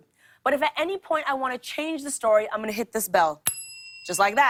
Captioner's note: ding